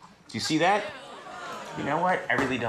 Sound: audience groans

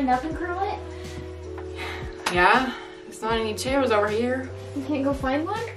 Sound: sighs

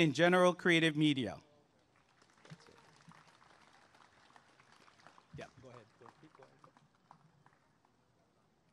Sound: applause and cheering

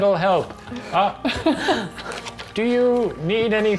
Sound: others laughing

